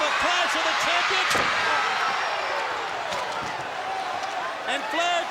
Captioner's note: crowd cheering; chair thudding